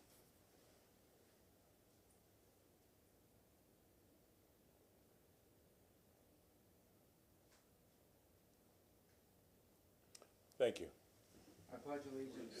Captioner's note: moment of silence